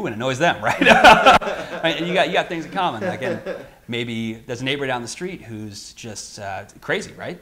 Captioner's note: laugh